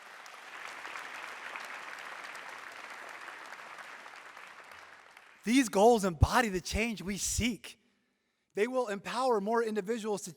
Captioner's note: applause